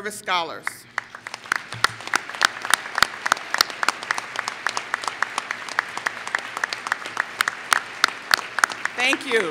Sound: applause

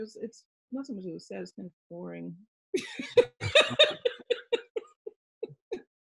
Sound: laughs

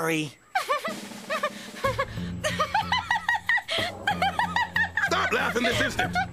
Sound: Courtney Giggling

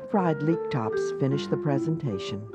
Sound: voiceover

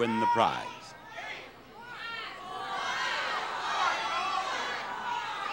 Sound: members of crowd yelling out

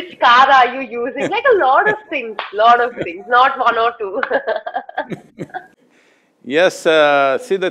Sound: both laugh; both laugh

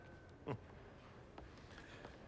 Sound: laugh

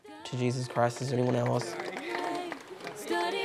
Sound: congregation claps

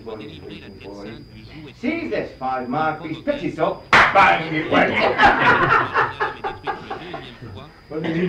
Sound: laughter

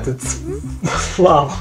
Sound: wheezes

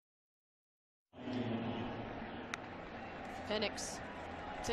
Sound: crowd noise

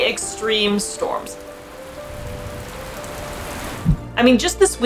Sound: background music; quiet rainfall sound increasing

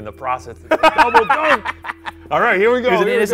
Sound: laughs

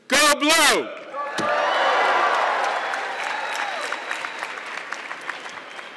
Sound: audience clapping

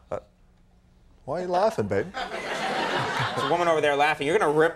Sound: audience laughing

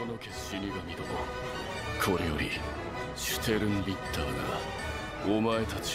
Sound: speaking in foreign language

